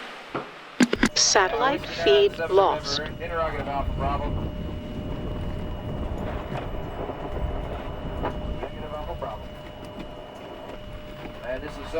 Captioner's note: radio Chatter